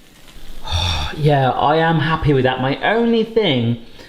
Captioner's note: sighs